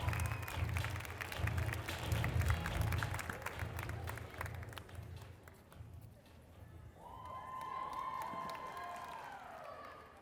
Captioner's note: applause